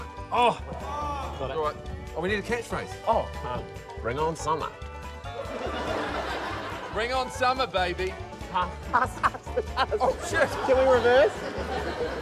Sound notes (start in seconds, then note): 5.4 laughter; 8.5 laughs